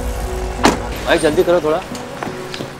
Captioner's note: Car door closes